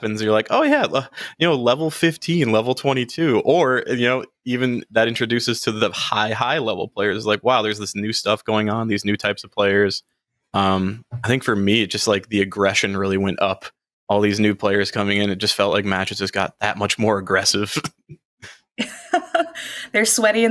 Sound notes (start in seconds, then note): 17.6 chuckles; 17.6 laughs